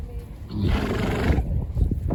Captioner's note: snorts